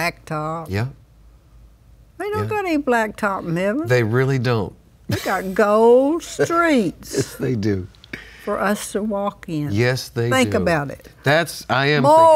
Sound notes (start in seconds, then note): 6.1 laughs